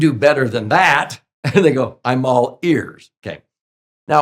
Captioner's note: chuckles